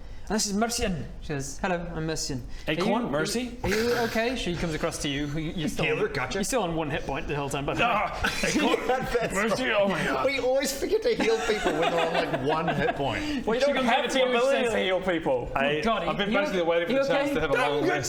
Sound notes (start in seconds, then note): 8.1 laughing